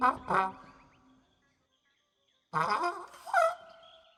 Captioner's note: hooting